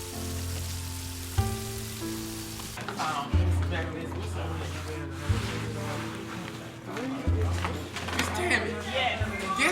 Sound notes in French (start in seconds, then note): 3.1 bavardages inaudibles